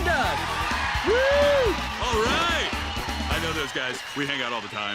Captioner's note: audience cheers